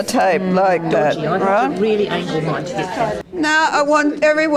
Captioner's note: audience chatter